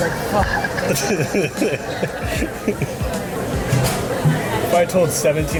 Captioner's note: laughs